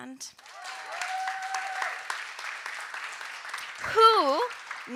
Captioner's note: audience cheering and applauding